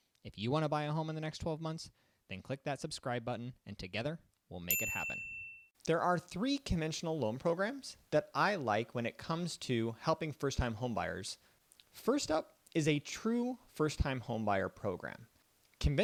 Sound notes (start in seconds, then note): 4.7 bell clicks